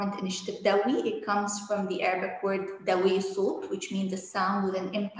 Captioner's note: speaking arabic